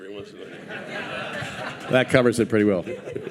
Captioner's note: audience laughing